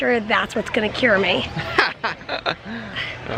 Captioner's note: laughter